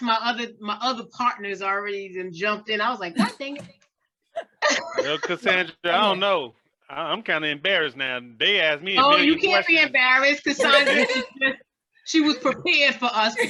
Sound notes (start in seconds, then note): 4.6 students laughing; 10.6 student laughs